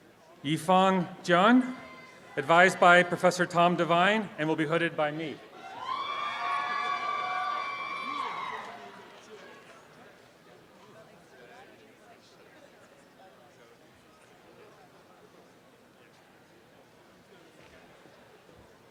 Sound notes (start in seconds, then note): 5.6 applause and cheering